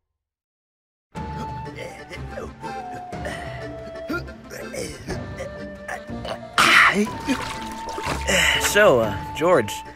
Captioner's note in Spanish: Furious tense rowing noises